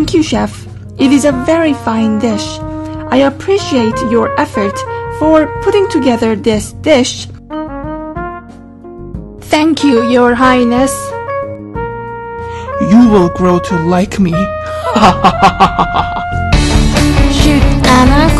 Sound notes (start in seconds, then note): 7.0 atmospheric music; 11.4 atmospheric music; 14.9 laugh; 16.5 atmospheric music